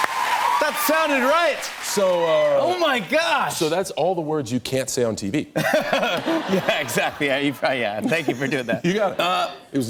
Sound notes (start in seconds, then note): 5.5 laughter